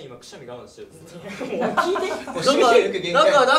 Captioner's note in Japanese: スタッフ笑い声